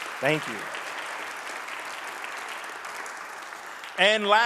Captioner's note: audience clapping